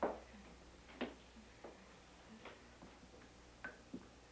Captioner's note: Claudie humming